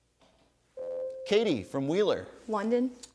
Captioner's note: ding